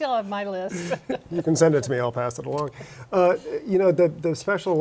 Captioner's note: laughter